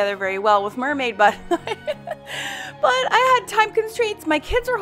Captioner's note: laughs loudly